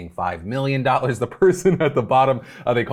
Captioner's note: chuckles